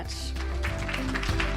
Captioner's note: applause